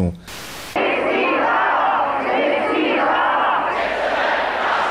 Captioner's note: crowd chanting